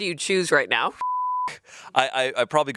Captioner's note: beep